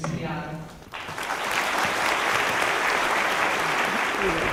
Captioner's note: audience applause